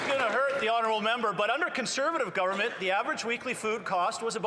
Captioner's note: some Applause